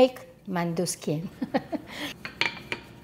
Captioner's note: laughter; rolling pin tapping sound